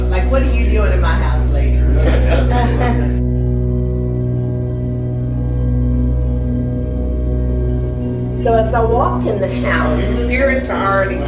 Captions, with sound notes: Like, what are you doing in my house lady? (guests laughing) (spooky music) So as I walk in the house, spirits are already